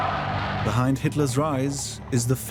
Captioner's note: crowd cheers